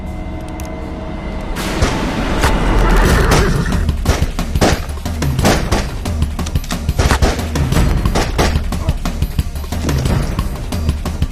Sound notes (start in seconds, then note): 1.6 gunshots